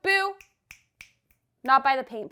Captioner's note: fingers snapping